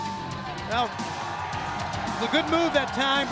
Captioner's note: crowd chatter